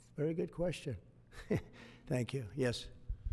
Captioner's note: laughs